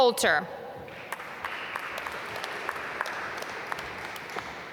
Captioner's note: applause